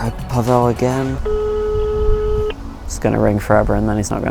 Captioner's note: phone rings